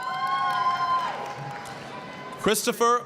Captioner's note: applause, cheering